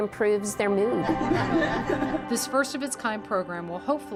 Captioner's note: group laughs